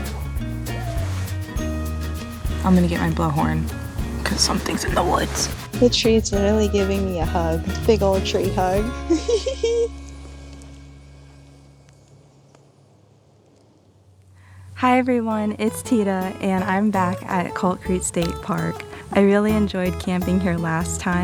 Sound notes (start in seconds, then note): 0.6 animal sounds; 8.9 giggles